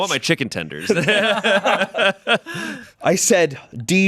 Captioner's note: everyone laughs